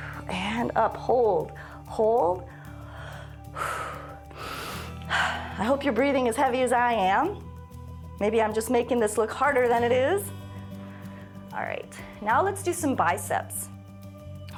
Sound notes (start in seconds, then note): 2.4 inhales and exhales repeatedly